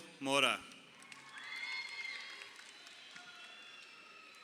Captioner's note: crowd cheering